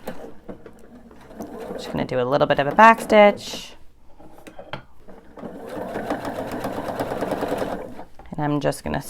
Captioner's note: sewing machine whirs